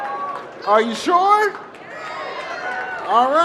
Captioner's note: cheering